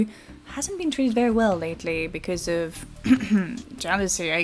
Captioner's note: clearing throat